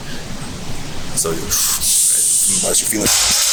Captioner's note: inhaling